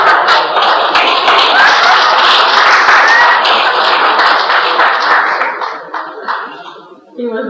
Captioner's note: all laugh; all laugh